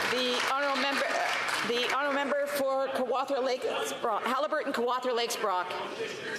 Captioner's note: applause